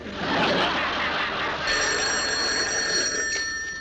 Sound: phone rings

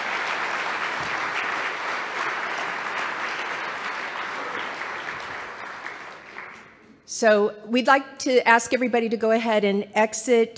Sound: applause

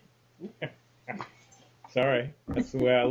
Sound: laughing

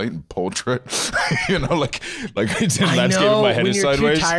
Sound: laughs

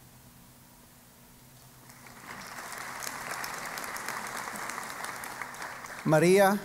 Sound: applause

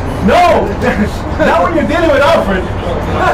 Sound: laughs

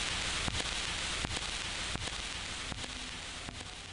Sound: static buzzing

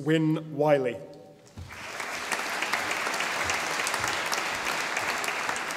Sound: audience applauding

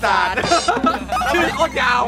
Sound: chuckles

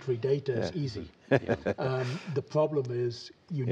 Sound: laughter

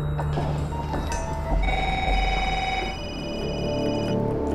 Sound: phones ringing

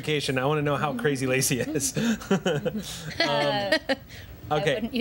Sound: laughs

